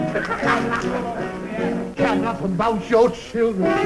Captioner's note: laughs